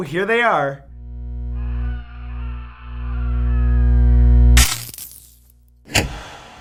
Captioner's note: electrical sounds; screaming